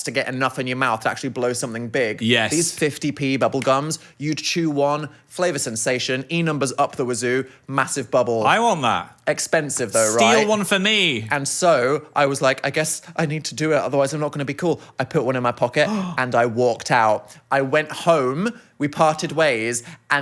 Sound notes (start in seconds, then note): 15.8 gasps